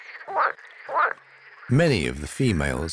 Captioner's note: frog croaks